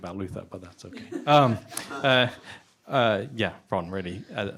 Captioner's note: laughter